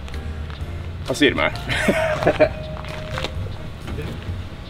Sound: laughs; slow music plays

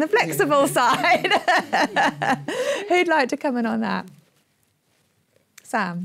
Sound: laughs

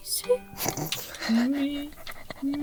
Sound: laughing

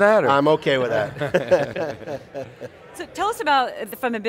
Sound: all laugh

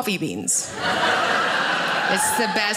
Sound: audience laughing

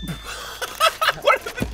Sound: laughing

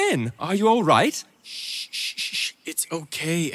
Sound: shushing

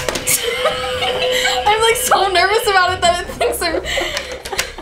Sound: nervous

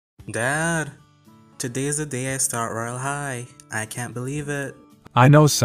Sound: excitedly

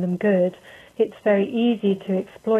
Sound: none

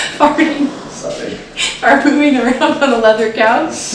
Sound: laughter

